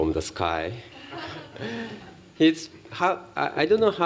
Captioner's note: laughter